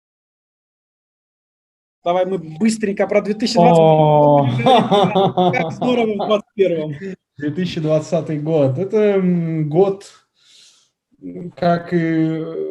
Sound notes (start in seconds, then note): 6.9 laughs